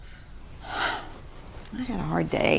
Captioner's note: she sighs